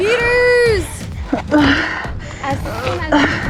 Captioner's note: breathing heavily